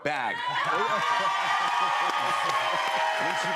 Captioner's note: cheers and applause